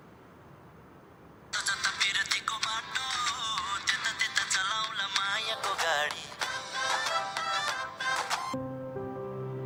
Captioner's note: cell phone ringing